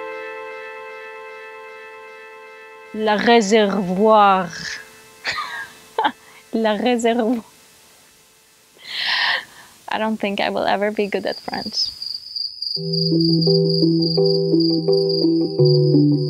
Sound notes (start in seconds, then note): 2.9 French accent; 5.2 laughing; 10.8 crickets chirping